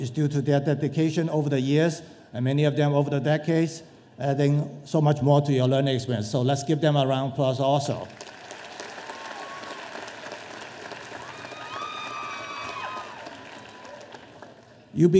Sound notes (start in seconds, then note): 8.1 audience applauding; 12.0 audience cheering